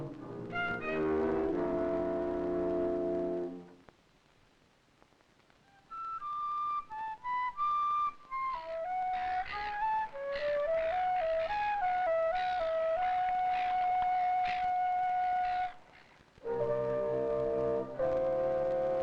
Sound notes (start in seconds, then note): 6.0 flute playing; 8.4 seagulls squawking; 16.4 ambient music